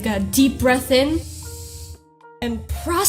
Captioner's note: inhales